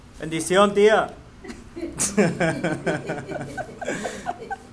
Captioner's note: all laugh